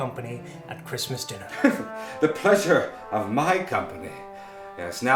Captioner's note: laughing